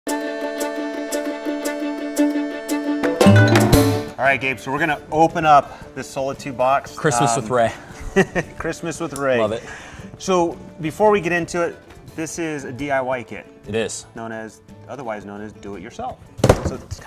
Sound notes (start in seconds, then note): 1.7 upbeat music; 8.0 chuckles